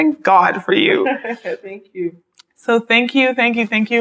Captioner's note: laughs